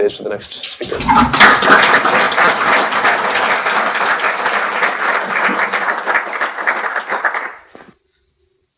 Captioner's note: applause